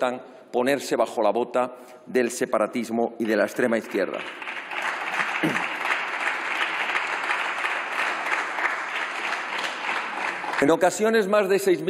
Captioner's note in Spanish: Aplausos